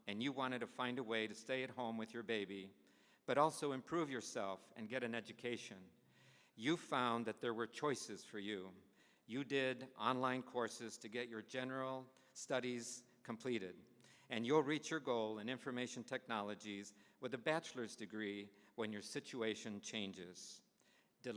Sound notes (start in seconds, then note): none